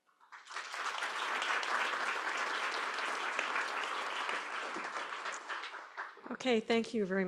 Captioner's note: applause